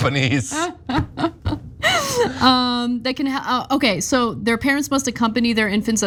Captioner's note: laugh